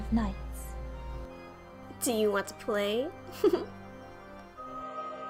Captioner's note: giggle